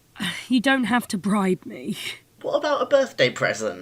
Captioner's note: sighing